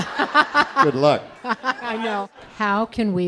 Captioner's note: laughing